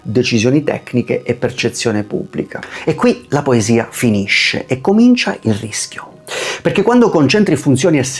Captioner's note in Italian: sbuffare